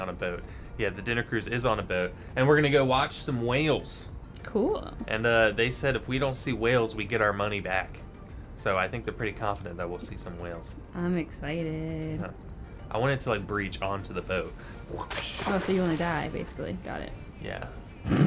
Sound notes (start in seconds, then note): 14.1 water splashing